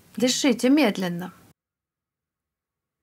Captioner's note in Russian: пауза